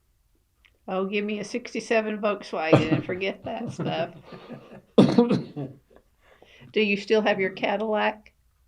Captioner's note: laughter